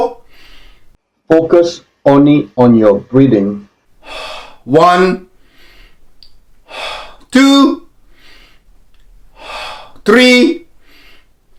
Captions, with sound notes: Focus only on your breathing. One (inhaling and exhaling), two (inhaling and exhaling), three (inhaling and exhaling),